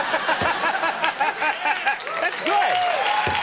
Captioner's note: audience applauding; Conan laughing